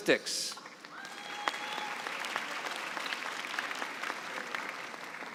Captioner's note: cheering and applause